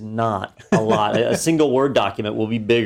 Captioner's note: laugh